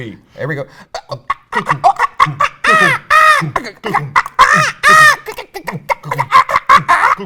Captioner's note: mimics beat; mimics screams